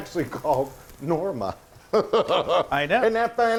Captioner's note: giggling